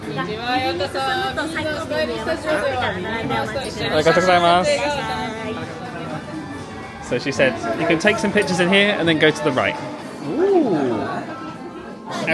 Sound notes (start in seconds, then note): 0.6 cast member speaking in foreign language